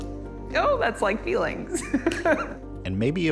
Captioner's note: laughing